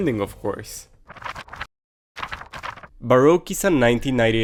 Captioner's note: pages rustle